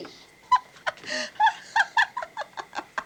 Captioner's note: laughing